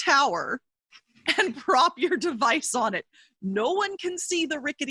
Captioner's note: chuckles